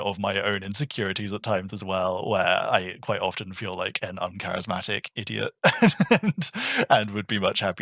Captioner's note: laughing